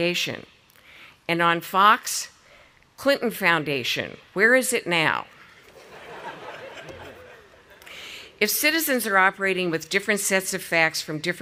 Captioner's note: audience laughing